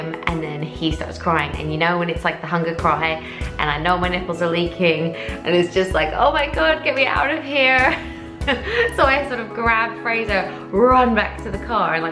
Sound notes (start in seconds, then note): 8.4 laughs